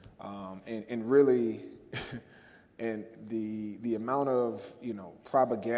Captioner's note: laughs